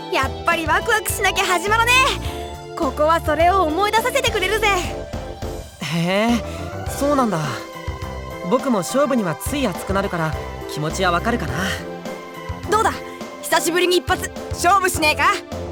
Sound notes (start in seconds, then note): 6.2 acknowledging hum